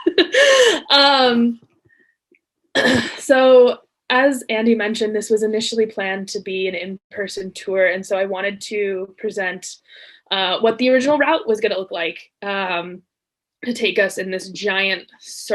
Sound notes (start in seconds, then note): 0.0 laughs